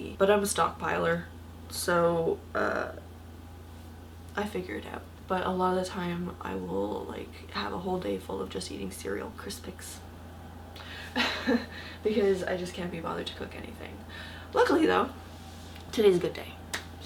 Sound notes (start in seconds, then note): 11.1 laugh; 16.6 clap